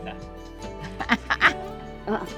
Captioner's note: laughs